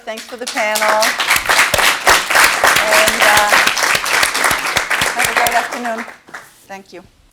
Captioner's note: applause